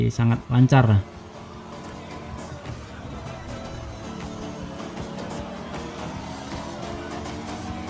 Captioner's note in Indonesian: Suara dari game; Suara dari game